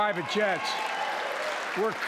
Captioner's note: cheering and applause